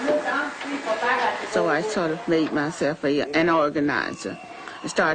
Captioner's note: female voice